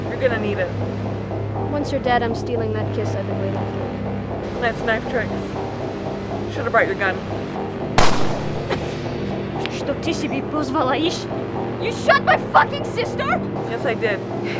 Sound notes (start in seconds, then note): 8.0 gunshot booms; 8.0 Lada speaks Russian